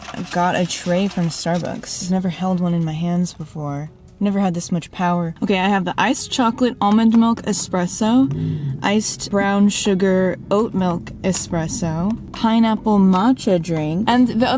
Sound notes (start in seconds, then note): none